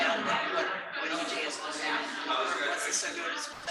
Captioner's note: people chattering indistinctly